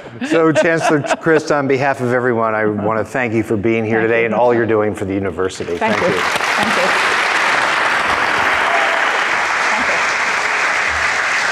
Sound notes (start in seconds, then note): 0.0 all laughing; 5.6 crowd applauding